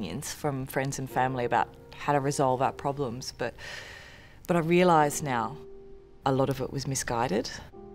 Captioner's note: inhales